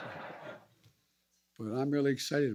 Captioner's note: laughter